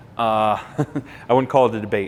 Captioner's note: laughing